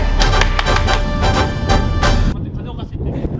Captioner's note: strong wind